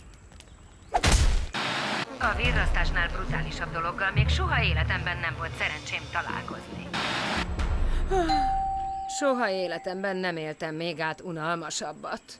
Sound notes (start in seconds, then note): 8.0 yawning